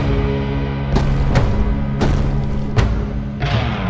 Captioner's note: rumbling